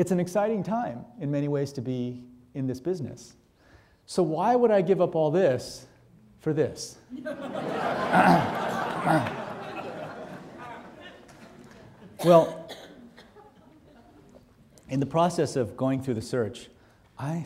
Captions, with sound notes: It's an exciting time, in many ways, to be in this business. So why would I give up all this, for this? (audience laughing) Well, in the process of going through the search,